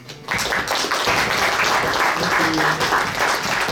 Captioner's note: audience applauds